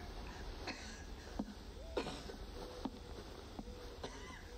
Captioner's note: mom coughing